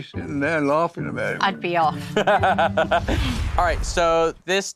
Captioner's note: Jack laughs